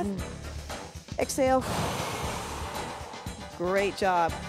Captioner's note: breath hisses